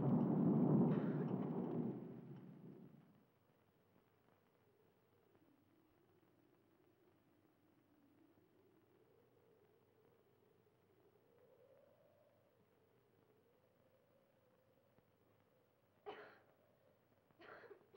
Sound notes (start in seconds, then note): 16.1 Helen coughing